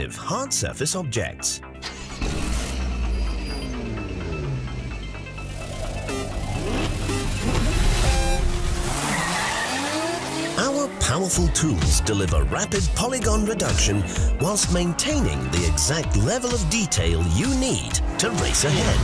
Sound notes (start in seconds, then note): 2.2 car engine starts